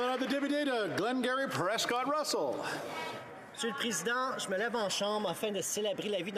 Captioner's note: applause